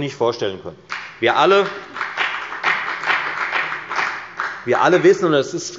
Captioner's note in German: Beifall bei der FDP